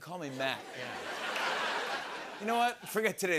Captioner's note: laughter